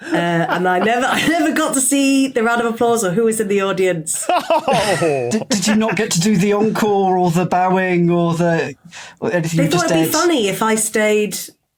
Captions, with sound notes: And I never got to see the round of applause or who was in the audience. (laughs empathetically) Did you not get to do the encore or the bowing or the... or anything? They thought it'd be funny if I stayed